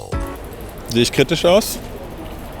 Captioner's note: speaks German